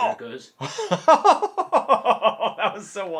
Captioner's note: laughing